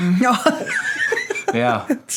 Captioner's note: laughs